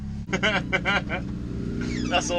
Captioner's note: laughing